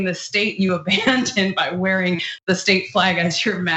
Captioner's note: laugh